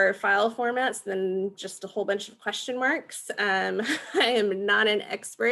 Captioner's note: chuckling